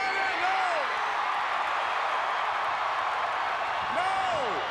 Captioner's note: crowd cheering